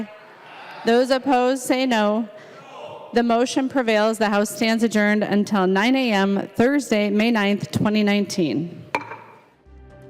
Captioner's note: chorus of ayes